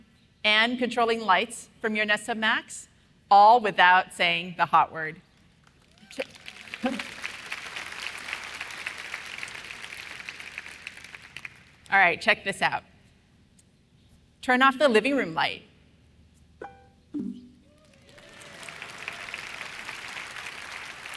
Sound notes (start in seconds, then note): 5.6 applause; 17.1 Next Hub Max chimes; 17.6 cheers and applause